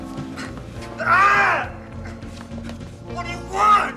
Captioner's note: man screams